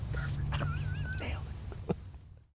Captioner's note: whispering; laughter; whispering